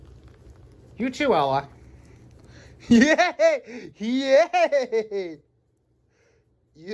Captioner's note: Ella laughs and giggles as she humps Ava